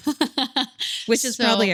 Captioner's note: laughing